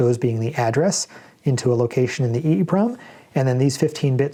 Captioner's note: erm